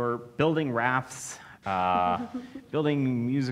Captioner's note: laughs